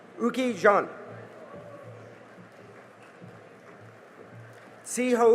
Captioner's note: cheering and applause